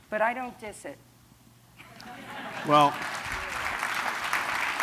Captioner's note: applause